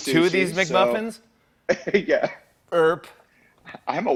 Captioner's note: laughs